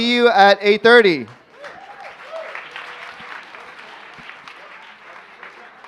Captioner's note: applauding, cheering